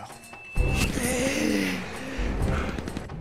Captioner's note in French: Profond gémissement